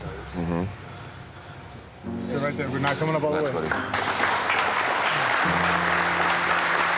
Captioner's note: applause